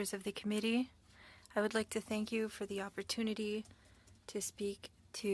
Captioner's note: speaking French